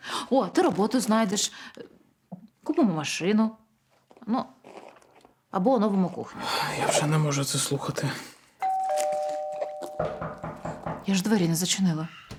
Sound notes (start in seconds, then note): 8.6 bell, knock on door